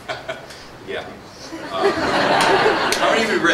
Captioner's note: laughter